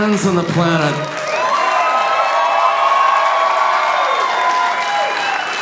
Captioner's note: audience cheering